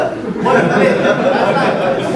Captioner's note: audience laughing